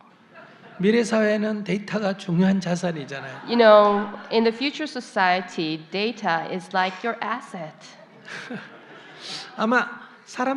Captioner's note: /Audience Laughter